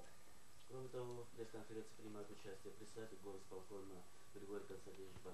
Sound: non-english speech

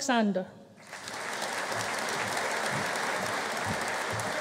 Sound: audience applauding

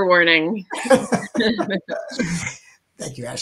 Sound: laughing

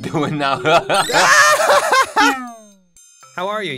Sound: laughs

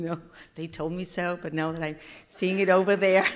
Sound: attendees laughing

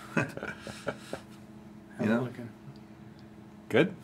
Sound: laughs

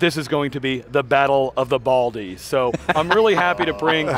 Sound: laughter

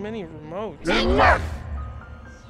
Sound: distorted voice

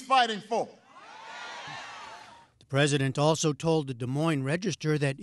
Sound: cheering and applause

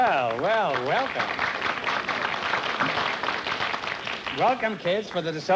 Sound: applause

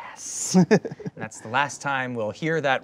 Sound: laughing

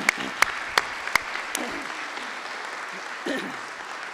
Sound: applause

